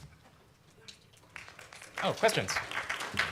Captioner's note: applause